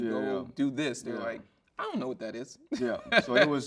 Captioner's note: chuckles